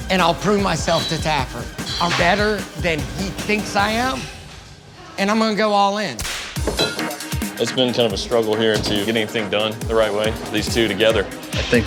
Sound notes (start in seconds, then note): 6.2 whip cracking